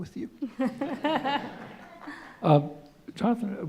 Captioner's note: laughter